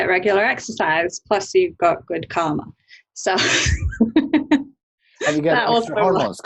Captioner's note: laughs